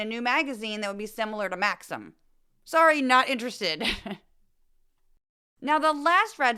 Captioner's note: laugh